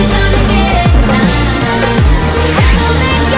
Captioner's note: Underdog brakes hard